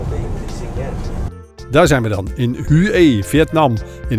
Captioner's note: voiceover